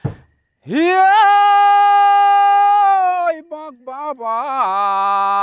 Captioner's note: chants